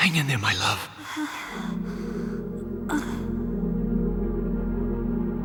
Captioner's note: tired moans